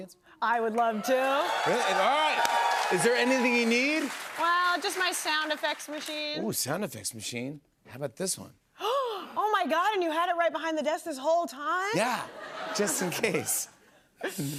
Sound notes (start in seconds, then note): 8.7 gasps